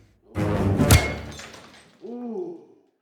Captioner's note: bat thuds; glass shatters